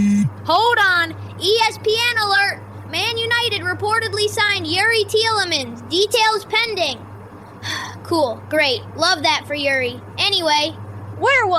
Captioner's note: sighs